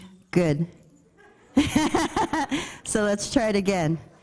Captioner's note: group laughing